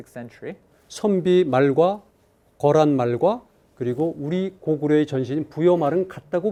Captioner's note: speaking in Korean